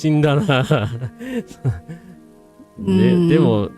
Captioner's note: laughter